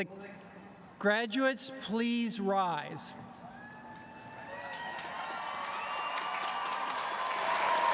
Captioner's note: applause